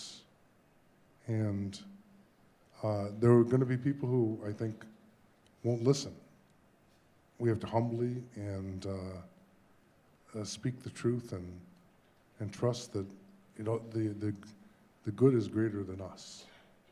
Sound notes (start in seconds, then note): none